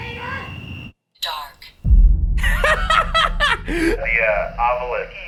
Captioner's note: cackles